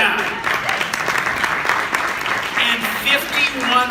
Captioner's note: applause